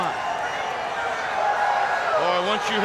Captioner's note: crowd cheering